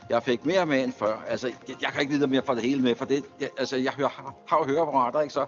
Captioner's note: man speaks foreign language